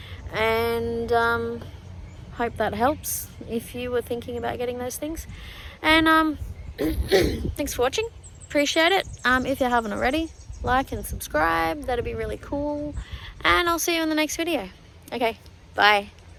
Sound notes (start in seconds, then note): 6.8 clears throat